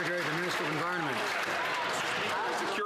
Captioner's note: some Applause